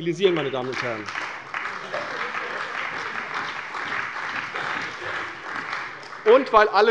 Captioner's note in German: Beifall bei der CDU und dem BÜNDNIS 90/DIE GRÜNEN